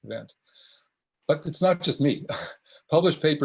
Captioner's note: scoffs